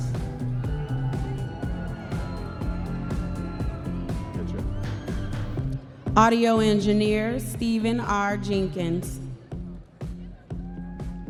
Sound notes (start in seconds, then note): 4.6 audience members cheering